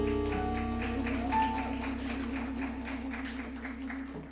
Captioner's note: audience applauds